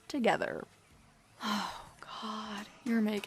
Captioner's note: sighs